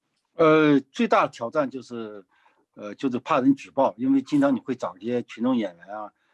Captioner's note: speaking in foreign language